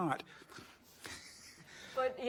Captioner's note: laughs